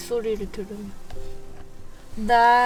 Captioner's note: sounds of rain?